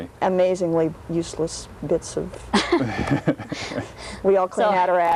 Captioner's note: laughs